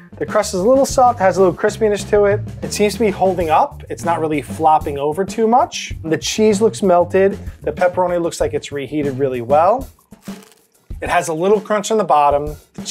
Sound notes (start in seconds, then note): 10.0 pizza crunches